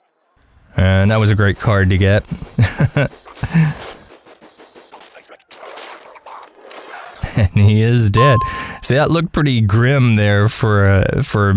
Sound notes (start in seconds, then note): 4.2 haha